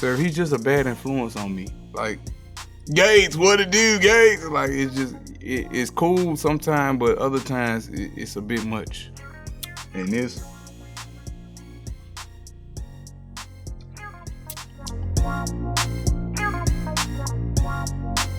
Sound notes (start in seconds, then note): 9.6 lips smacking; 15.6 intense music